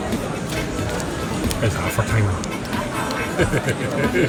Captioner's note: laughing